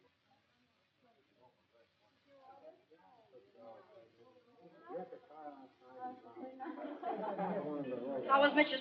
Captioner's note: midway chatter